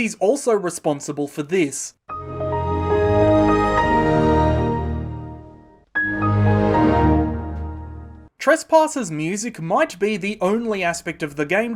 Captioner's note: Windows XP jingles